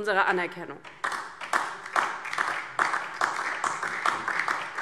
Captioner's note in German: Beifall DIE LINKE und vereinzelt SPD